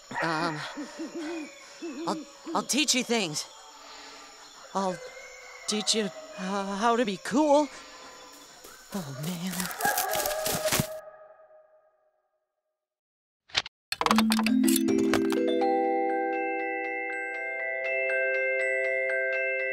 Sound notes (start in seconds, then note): 8.4 footsteps; 14.2 music box music